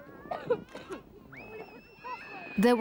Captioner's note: people screaming